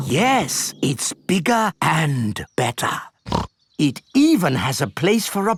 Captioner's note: snorts